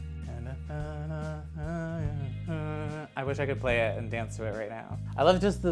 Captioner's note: humming